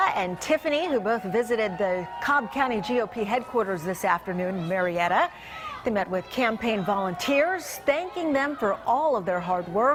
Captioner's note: cheers and applause